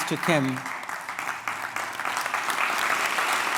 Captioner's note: applause